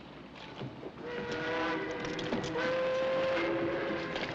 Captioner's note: ship horn